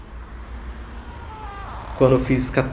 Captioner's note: door creaking